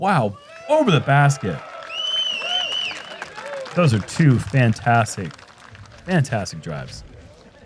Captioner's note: applause